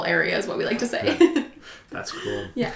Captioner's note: laughs